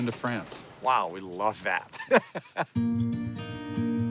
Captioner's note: laughing